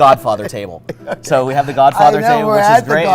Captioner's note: laughs